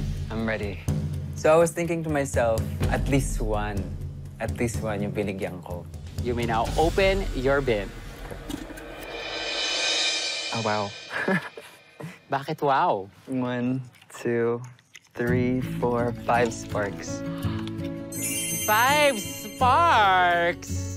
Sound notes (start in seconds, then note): 11.0 chuckles; 17.1 mela gasps